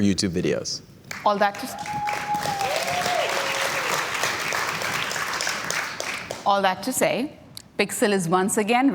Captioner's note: cheers and Applause